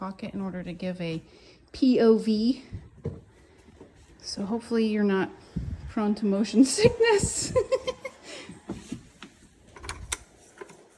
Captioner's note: laughs